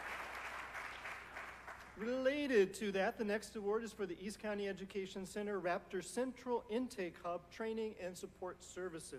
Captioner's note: applause